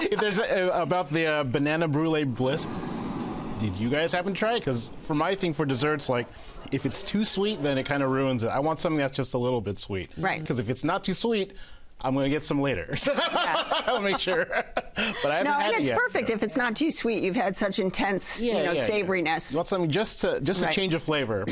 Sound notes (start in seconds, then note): 13.0 laughs